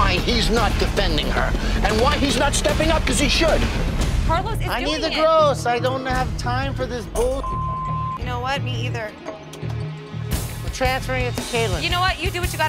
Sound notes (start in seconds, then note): 7.2 beep